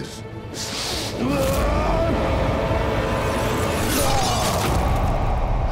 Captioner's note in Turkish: Bağırma sesi